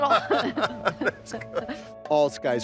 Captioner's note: both laughing